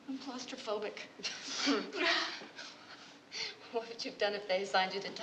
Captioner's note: laughing